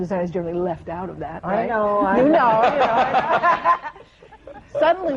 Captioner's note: laughter